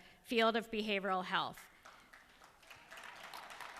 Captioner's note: applause